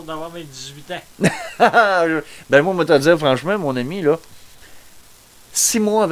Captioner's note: laughs